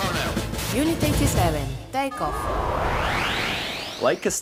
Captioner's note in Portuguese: game audio